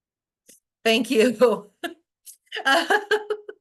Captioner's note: laughs